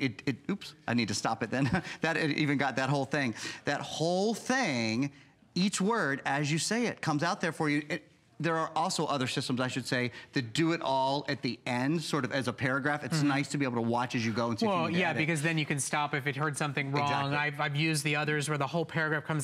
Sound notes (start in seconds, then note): 1.5 laughter